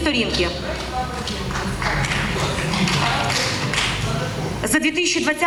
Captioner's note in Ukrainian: поодинокі аплодисменти в залі